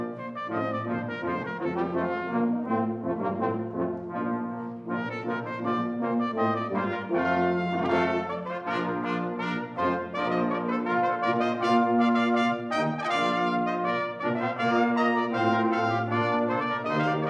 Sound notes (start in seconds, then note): none